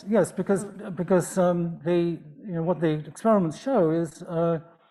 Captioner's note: none